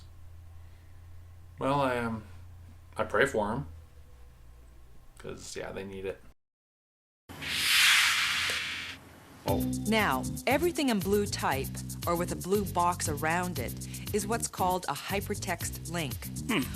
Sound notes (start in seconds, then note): 7.3 whoosh